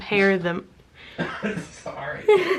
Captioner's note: coughs